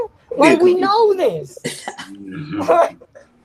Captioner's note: chuckles